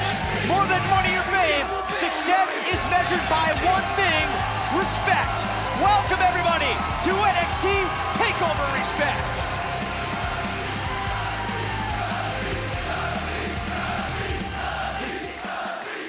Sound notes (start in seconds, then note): 5.5 crowd cheering; 13.7 crowd cheering